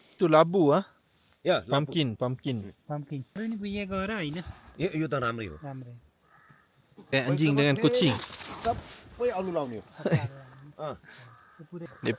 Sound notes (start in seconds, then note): 3.3 speaking Nepali; 9.1 speaking Nepali